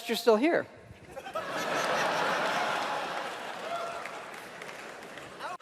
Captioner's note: audience laughing